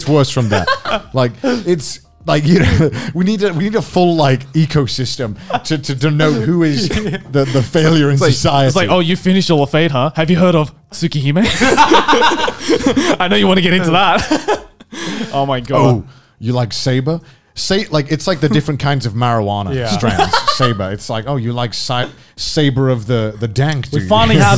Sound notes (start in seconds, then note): 11.4 men laughing; 14.1 laughs